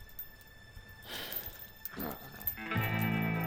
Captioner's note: bucky sighs